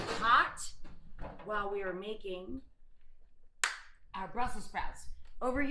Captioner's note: claps